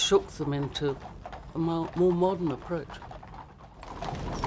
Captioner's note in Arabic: صوت خيول